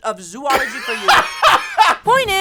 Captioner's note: laughs